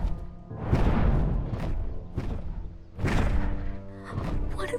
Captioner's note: wings flap